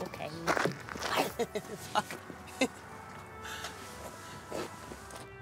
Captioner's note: laughs